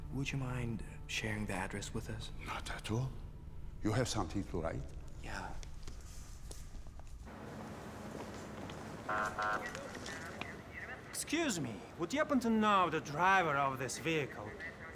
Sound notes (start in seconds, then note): 9.0 siren honking; 9.0 police radios chattering